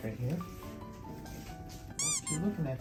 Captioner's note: pat pat